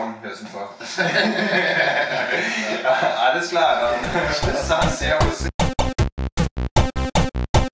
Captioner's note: laughing